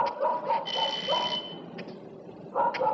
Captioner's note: doorbell rings